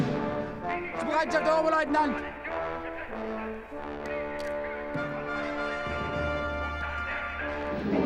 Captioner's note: speaking german